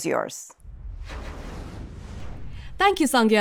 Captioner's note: graphic whooshing